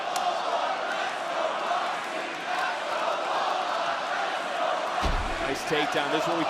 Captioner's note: crowd chants let's go, roxy; crowd chants "let's go, lola"